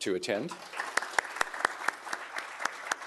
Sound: applause

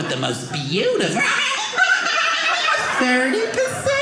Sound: fast forwarding voice

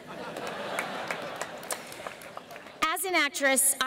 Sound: laughter

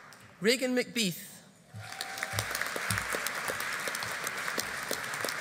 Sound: audience applauding

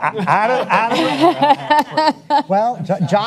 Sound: panelists laugh

